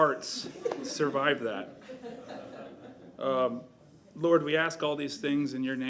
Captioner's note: laughter